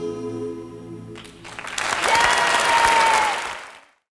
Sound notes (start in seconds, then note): 1.2 cheering, clapping